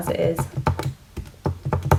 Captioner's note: typing on calculator